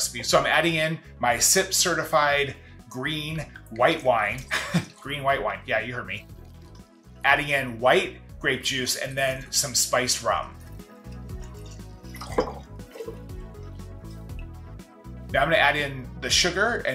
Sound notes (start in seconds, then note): 4.5 laughs; 10.2 energetic music; 10.4 liquids pouring